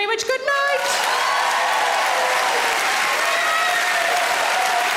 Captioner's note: audience cheering